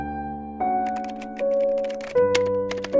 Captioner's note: typewriter sound